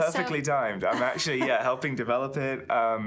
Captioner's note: laughing